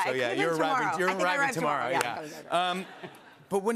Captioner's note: laughter